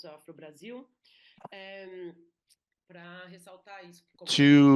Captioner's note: speaking Portuguese